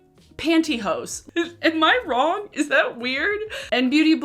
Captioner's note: laughing